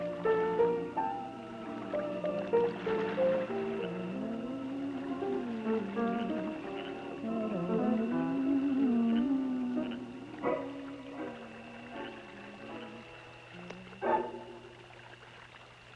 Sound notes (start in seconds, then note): 13.0 snap